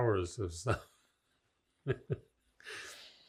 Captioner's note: laughing